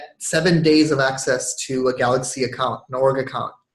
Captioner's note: none